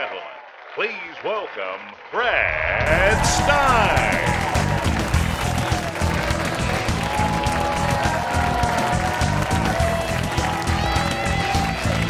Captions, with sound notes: - [Voiceover] Ladies and gentlemen, please welcome Brad Stine. (clapping) (rock music)